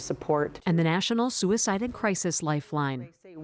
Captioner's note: voice-over